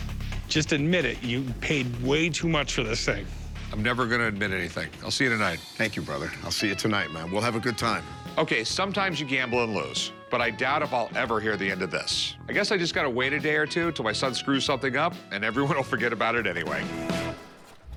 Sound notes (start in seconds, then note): none